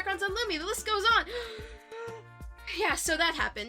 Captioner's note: gaaaaaaaspp!!